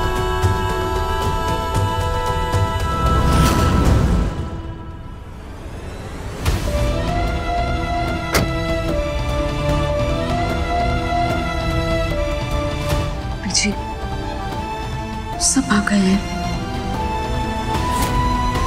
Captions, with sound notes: [car door closes] Mom, everyone is here. [sad music]